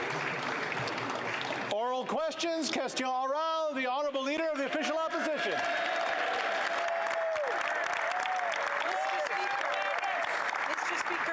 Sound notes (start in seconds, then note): 1.2 applause